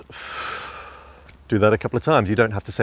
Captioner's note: exhaling